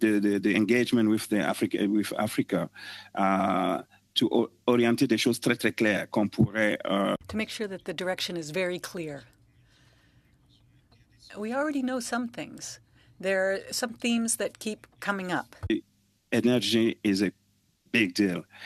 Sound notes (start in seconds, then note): 10.7 speaking French